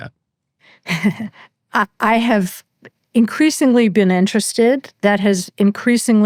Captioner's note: chuckles